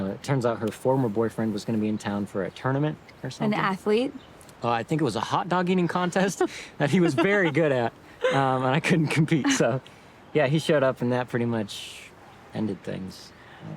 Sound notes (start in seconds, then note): 6.8 Zoe laughing